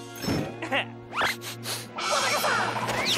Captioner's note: sniffs